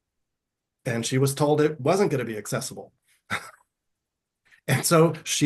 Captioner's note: chuckles